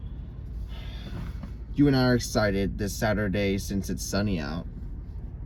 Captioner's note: exhales